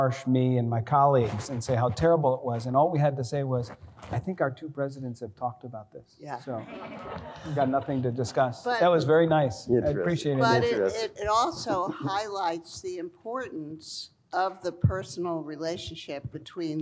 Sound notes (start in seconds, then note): 6.5 laughter